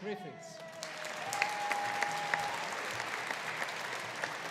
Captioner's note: audience applauding